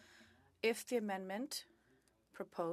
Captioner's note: speaking French